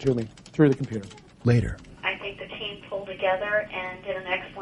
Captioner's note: voice on speaker phone